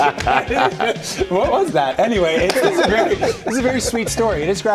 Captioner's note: laughter